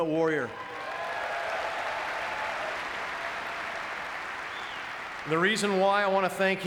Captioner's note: audience cheering and clapping